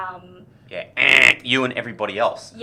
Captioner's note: fail buzzer